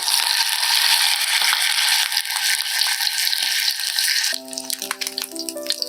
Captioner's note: rhythmic crackling